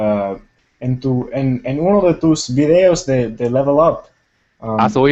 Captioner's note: Spanish